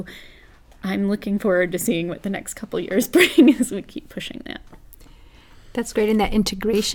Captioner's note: laugh